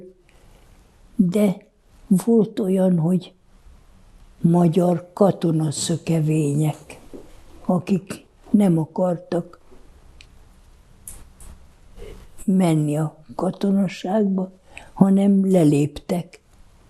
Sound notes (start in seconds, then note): none